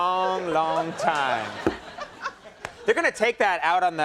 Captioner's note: Alison laughing